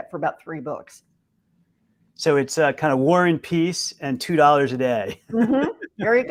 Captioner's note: chuckle